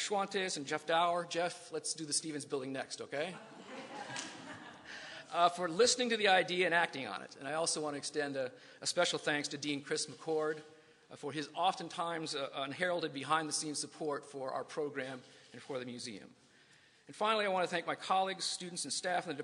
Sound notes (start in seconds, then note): 3.4 laughter